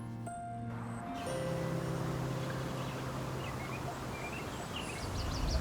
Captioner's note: water lapping